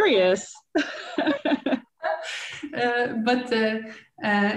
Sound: laughing

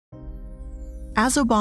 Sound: soft twinkling

